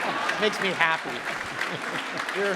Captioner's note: audience laughs